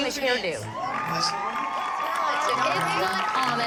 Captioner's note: applause and cheering